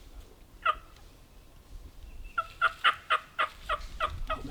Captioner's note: turkey calls